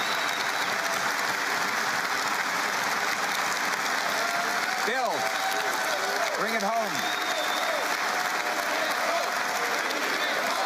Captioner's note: cheering and Applause